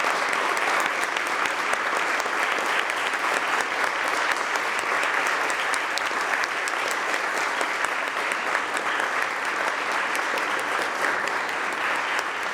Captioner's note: applause